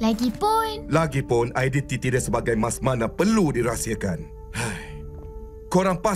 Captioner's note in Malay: mengeluh